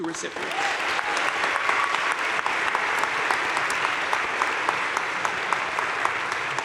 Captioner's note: crowd cheering and applauding